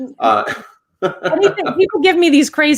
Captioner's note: laughs